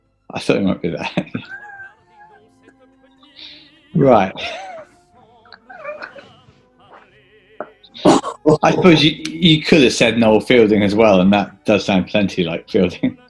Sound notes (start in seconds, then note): 0.9 chuckling; 3.9 stifled laughter